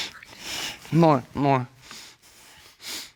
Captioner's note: sniffling; stammers